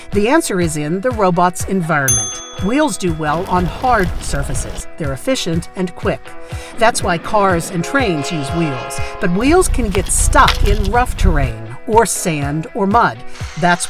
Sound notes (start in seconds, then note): 2.1 bell ringing; 7.6 train honking